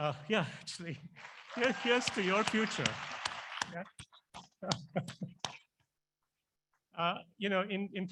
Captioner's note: applause